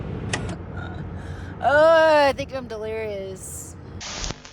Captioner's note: laughs